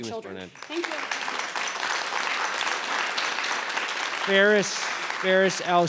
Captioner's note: audience applauds